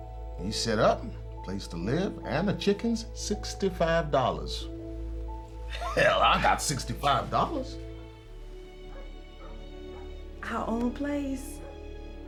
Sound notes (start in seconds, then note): 8.8 dog barking in distance